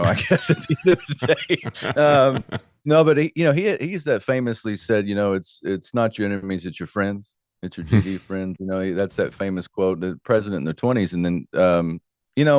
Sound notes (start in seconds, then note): 2.8 laughing